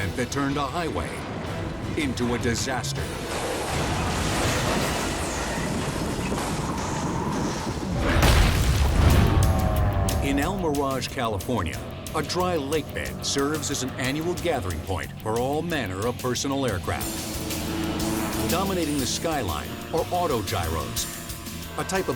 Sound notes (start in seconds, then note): 3.9 metals slam; 8.1 logo slams